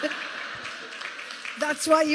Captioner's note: laughter